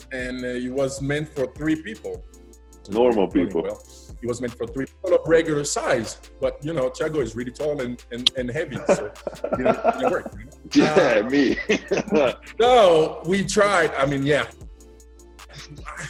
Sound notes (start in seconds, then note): 10.5 laughs